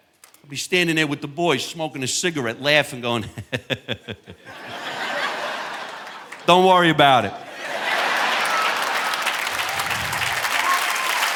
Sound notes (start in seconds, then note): 3.2 chuckles; 5.2 audience laughing; 8.1 audience laughing